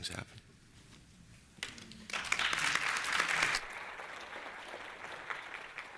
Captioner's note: applause